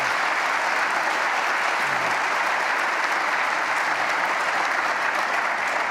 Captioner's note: applause